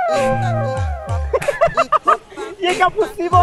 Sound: laughing

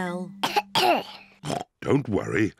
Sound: coughs; oinks

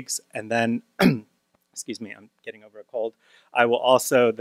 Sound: coughs

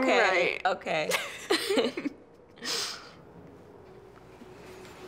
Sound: both laughing

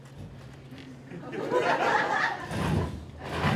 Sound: laughter

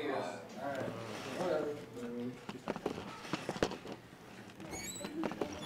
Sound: people chattering

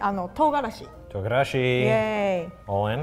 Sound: speaks in foreign language

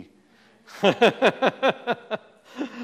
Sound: laughs

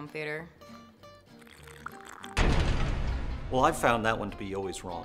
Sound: slurrrrrrrrrp

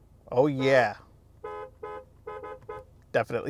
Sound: car horn beeps; car horn beeps repeatedly

